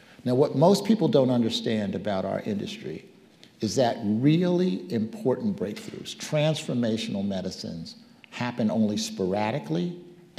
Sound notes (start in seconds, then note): none